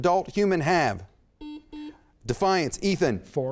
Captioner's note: beep